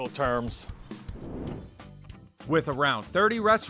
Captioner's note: air whooshing